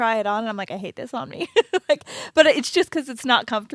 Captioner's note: laughs